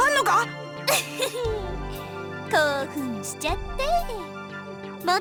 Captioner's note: chuckle